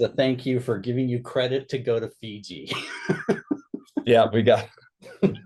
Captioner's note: laughs